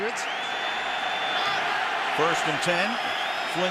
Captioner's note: cheering